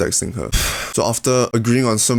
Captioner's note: sigh